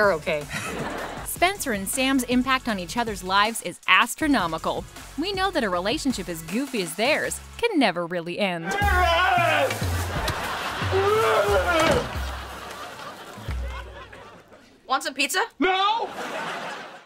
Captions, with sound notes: [chuckles] Spencer and Sam's impact on each other's lives is astronomical. We know that a relationship as goofy as theirs can never really end. [grunting] - Wants some pizza? - No!